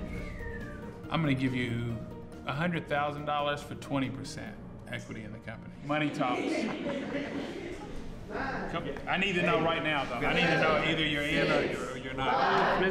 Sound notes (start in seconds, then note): 6.0 laughter